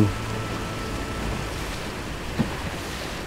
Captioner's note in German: Wasserrauschen